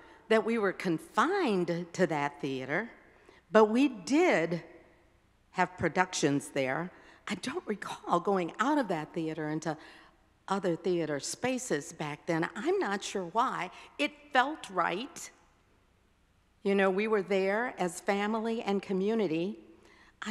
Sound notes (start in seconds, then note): none